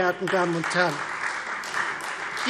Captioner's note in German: Beifall Freie Demokraten